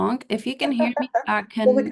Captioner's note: laughing